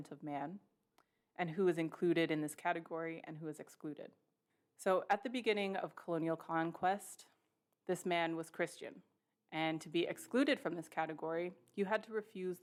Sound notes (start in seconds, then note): none